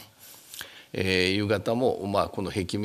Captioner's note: speaking japanese